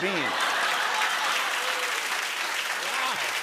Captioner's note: laughter and applause